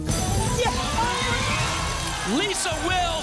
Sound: applause and cheering

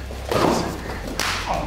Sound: gasps; thud; slap

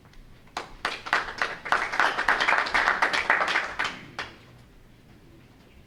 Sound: audience members clapping

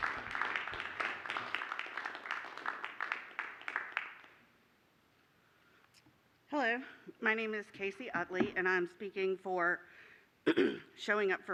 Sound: applause

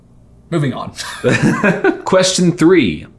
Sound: laughing

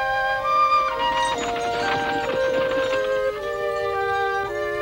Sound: wagon rattling

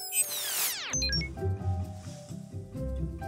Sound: scene beeps; gentle playful music

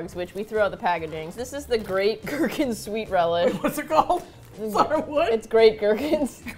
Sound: laughing; both laugh

